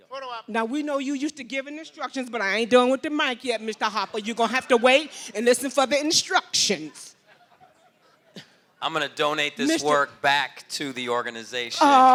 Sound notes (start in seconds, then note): 7.2 laughter